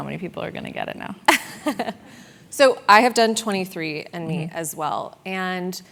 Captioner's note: laugh